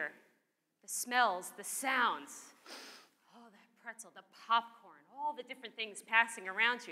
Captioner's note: sniff